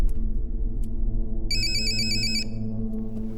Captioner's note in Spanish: el timbre continúa